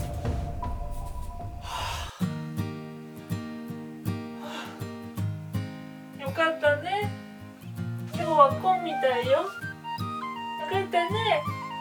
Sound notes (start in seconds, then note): 1.6 sigh